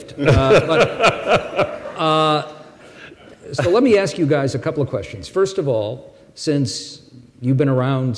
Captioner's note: laughter; laughs